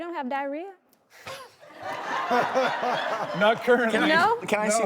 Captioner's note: laughing